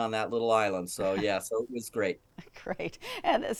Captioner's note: chuckling